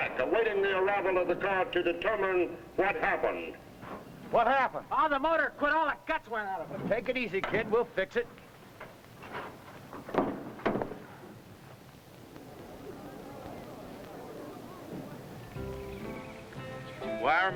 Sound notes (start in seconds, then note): 11.9 audience rumbling; 15.5 upbeat music